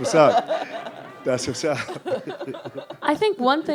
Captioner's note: laughs